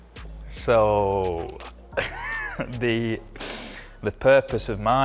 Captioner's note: laughing